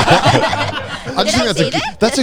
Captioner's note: everyone laughing